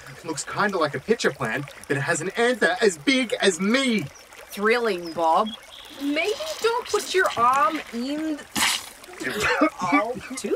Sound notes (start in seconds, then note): 5.0 A squelching sound as Bob puts his arm in the mega petal